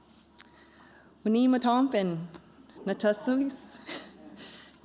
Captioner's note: non-english speech